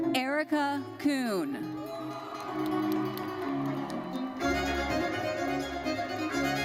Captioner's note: audience cheers